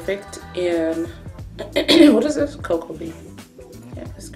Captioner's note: clears throat